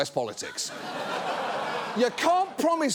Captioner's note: audience laughs